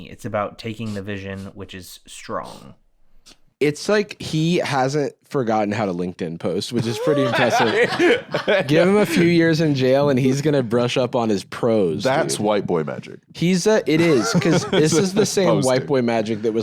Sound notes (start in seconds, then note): 6.8 laughs